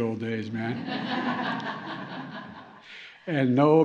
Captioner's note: laughter